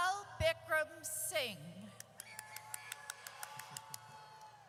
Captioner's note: audience cheers